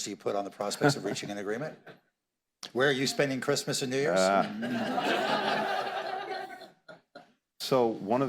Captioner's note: laughter